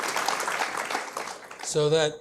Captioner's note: applause